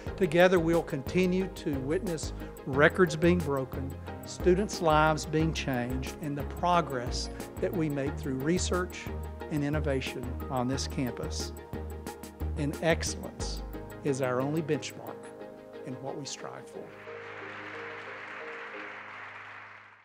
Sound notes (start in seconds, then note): 16.9 audience applauding